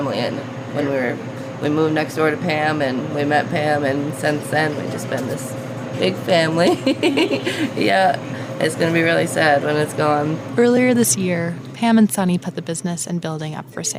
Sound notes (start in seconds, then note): 6.6 laughter